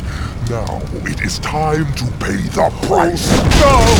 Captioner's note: evil laughter